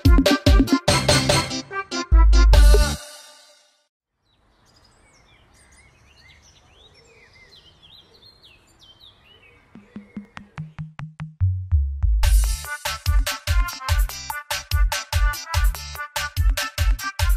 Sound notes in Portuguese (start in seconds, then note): 4.2 passarinhos